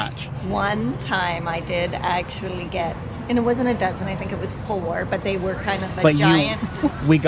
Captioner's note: laughs